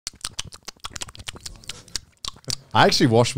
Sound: smacks lips

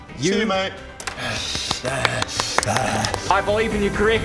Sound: applause for finally getting the kill; angry panting

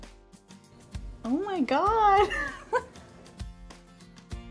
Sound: laughs

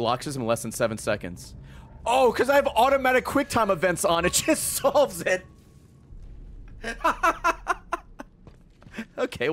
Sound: laughs

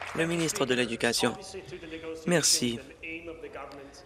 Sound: applause

